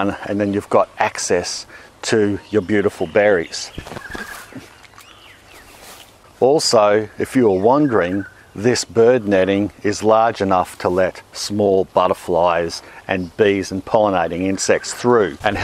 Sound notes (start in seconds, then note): 3.8 mouth crunches